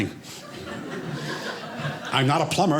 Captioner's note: audience laughing